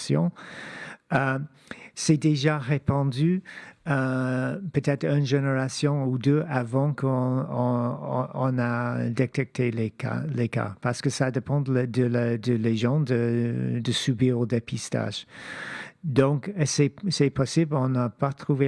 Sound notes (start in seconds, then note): 2.0 speaking French